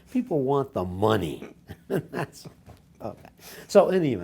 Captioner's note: laughs